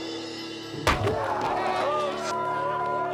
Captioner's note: thudding